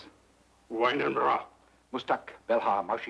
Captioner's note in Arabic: الكاهن يتكلم لغة أجنبية; يتحدث لغة أجنبية